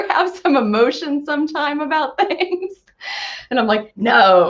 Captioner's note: laughs